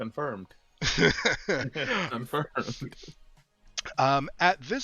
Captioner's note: laughs